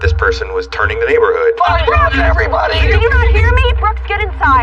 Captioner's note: indistinct shouting